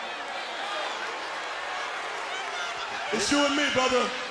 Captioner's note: crowd boos